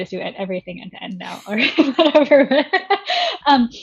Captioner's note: laughing